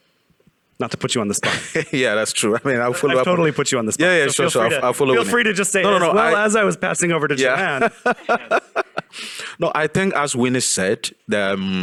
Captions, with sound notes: Not to put you on the spot. - (laughs) Yeah, that's true, I mean, I'll follow up. - I've totally put you on the spot. - Yeah, yeah, sure, sure, I'll follow up. - Feel free to just say, - No, no, no. - "Well, as I was passing over to Joanne." - Yeah. (laughs) No, I think as Winnie said,